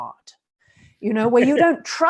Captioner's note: chuckles